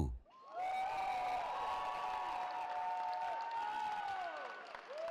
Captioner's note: cheering